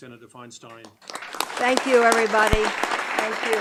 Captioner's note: audience clapping